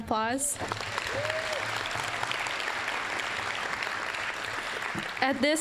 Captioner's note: applause